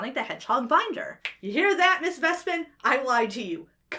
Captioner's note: snaps fingers